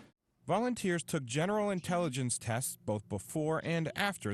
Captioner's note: voiceover